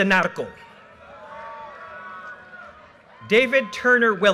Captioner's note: audience cheers and applause